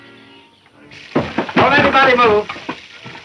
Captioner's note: door slams